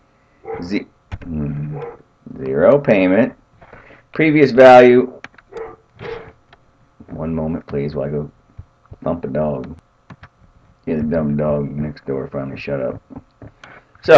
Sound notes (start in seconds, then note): 0.4 dog barks; 5.5 dog barks